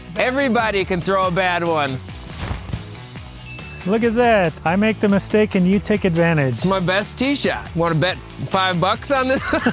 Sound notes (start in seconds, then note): 1.9 clothes rustling; 9.2 both laughing